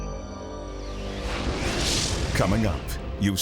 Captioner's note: graphics whooshing